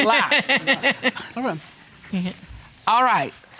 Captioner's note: laughing